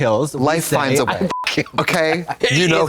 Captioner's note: beep